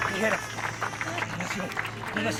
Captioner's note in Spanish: Aplausos